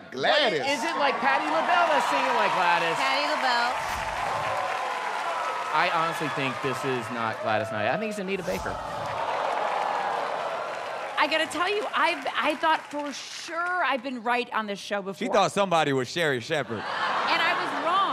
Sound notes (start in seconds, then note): 8.8 audience groans